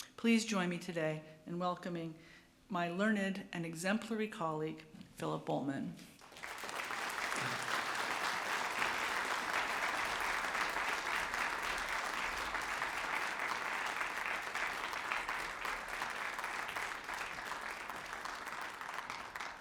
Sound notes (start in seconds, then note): 8.1 applause